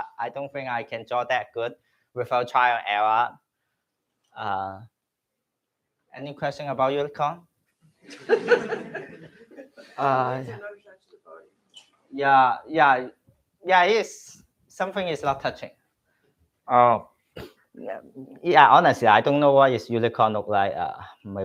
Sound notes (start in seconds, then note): 8.0 laughter